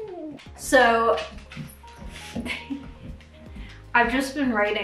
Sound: giggling

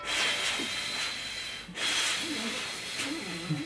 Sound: blows

